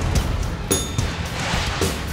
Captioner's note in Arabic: نغمة الجرس الصحيحة